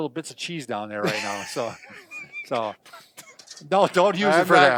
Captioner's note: laughs